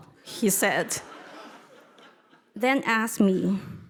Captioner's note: audience laughing